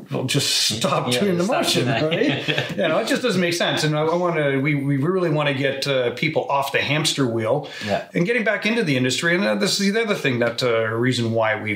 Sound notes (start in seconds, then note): 1.5 laughs